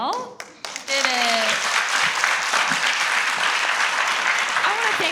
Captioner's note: everyone applauds